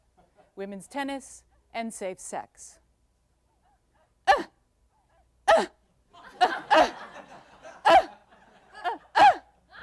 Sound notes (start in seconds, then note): 3.8 short harsh grunts; 6.1 laughter; 9.6 heavier laughter